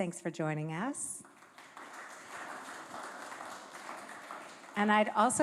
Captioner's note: applause